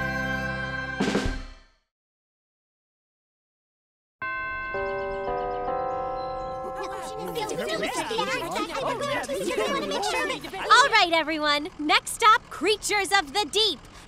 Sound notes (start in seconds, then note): 4.2 organ chimes; 6.6 group chattering